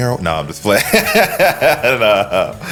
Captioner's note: laughing